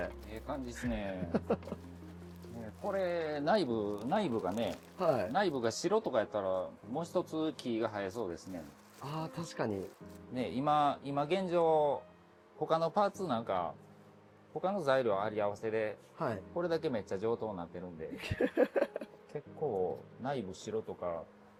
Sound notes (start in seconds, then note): 18.2 laugh